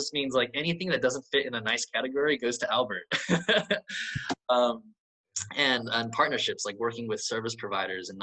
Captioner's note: laughs